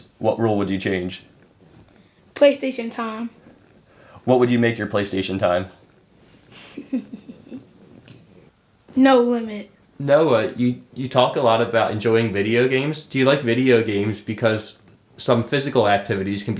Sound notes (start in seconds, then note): 6.6 chuckles